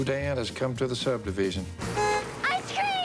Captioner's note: horn honking